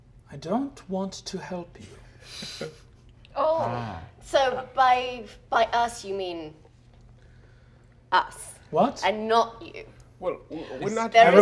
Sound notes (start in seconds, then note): 2.2 laughing